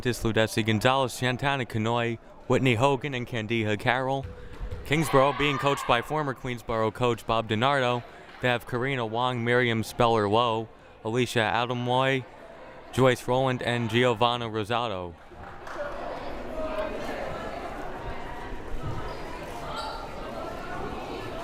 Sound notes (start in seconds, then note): 15.2 crowd murmuring